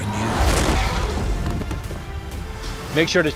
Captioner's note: man thudding against ship